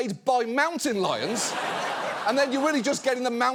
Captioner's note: audience laughs